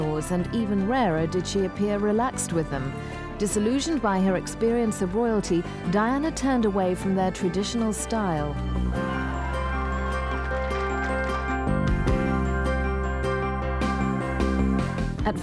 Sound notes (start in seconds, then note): 8.9 audience applauding; 11.9 gentle music